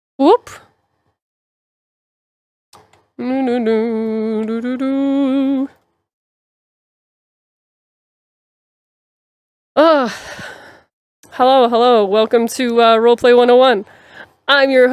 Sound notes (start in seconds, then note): 3.2 humming to music